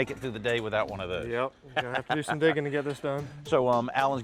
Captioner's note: laughs